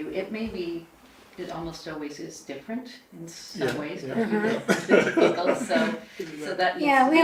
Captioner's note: risas